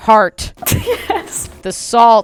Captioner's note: laughing